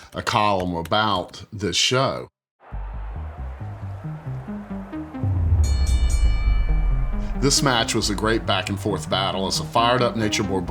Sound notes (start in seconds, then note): 2.7 tense music; 5.5 bell dinging